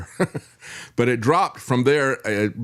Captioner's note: laughs